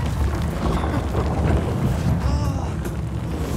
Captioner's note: groaning noises, anxious sounds